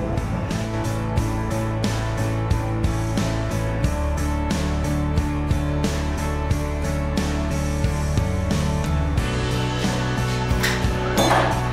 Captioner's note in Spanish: Ruido de barbería silenciado